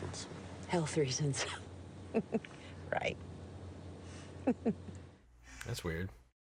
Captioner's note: chuckles; laughs